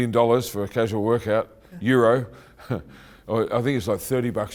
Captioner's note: chuckling